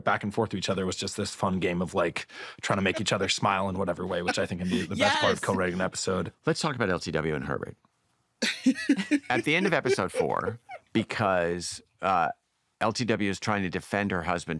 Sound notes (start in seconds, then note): 8.4 laughter